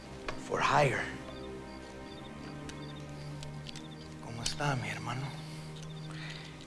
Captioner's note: speaking in foreign language